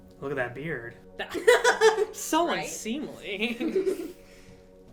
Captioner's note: laughing